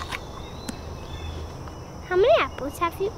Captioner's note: crunching apple